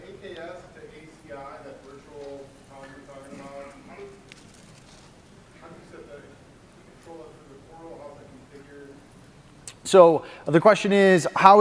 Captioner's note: off mic